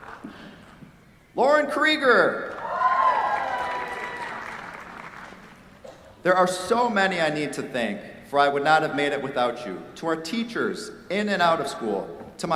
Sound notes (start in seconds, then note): 0.0 applause; 2.5 cheers, applause